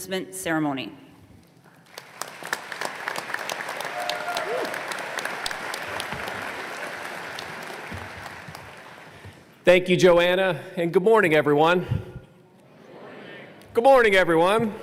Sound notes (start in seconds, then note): 4.4 applause